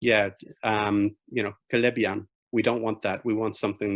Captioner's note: speaking in foreign language